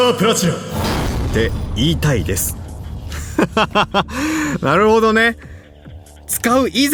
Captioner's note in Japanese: 笑い